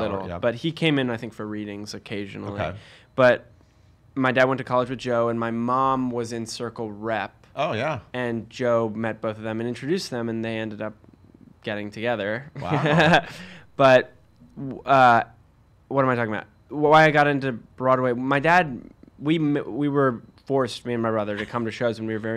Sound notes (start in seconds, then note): 12.6 laughs